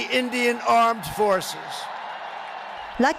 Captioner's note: cheering and applause